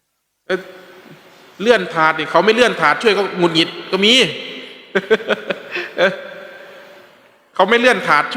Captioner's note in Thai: เสียงหัวเราะ